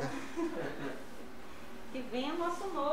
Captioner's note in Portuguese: risos